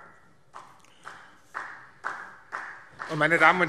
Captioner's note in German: Beifall